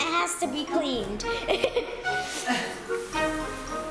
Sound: laughter

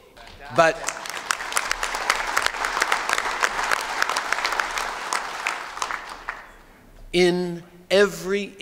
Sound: applause

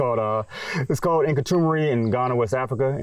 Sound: chuckles

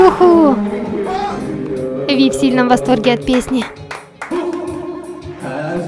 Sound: applause

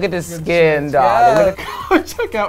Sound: chuckles

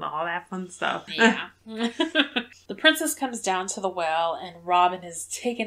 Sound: laughs

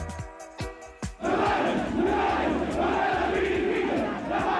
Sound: upbeat music; crowd chanting

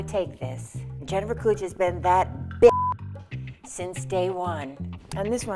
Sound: beep

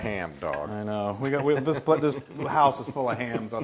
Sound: laugh

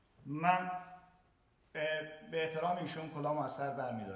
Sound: speaking in farsi

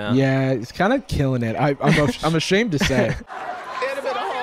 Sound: chuckles; crowd laughing

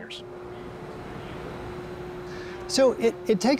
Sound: engine humming

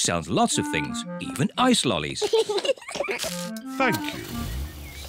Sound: both laugh

